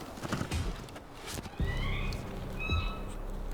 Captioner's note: elk bugling